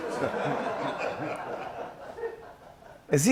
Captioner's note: laughter